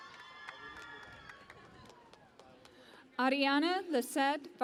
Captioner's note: cheering and Applause